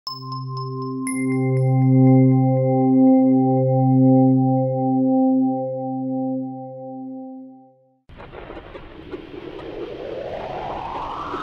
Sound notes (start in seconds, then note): 0.1 bell tone; 8.8 space sounds